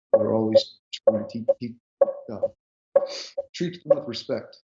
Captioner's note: background interference noise